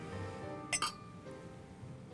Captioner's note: glasses clinking